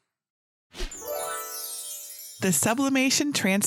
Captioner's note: stars chiming; screen whooshes